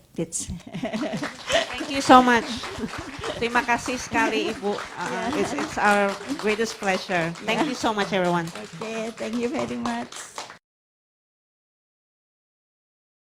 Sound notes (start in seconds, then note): 0.8 laughs; 1.2 audience claps; 3.8 speaks Indonesian